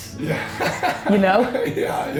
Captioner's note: intern laughs